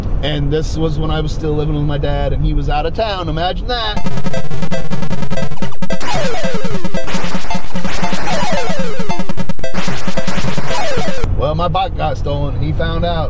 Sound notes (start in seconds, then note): 4.0 game beeping; 4.0 upbeat game music